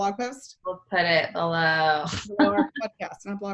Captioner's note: laughs